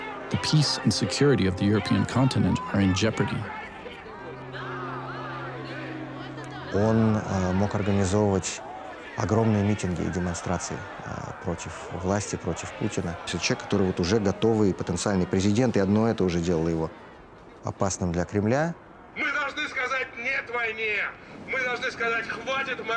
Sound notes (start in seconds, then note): 6.6 Vladimir speaking Russian; 19.0 Boris speaking Russian